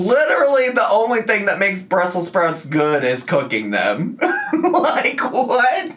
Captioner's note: laughs